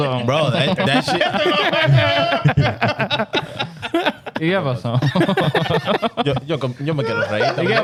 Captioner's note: laughing; speaking In Foreign Language